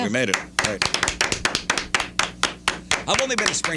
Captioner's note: clapping